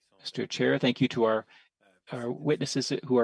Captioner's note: speaking French